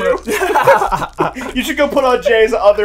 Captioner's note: laughs